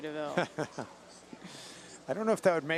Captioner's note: laughs